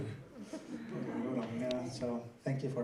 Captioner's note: laughter